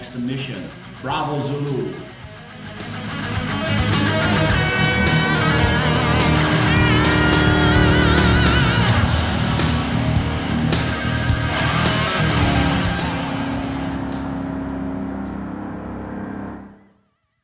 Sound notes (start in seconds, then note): 2.0 engines revving, cars noises